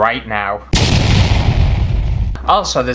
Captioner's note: kaboom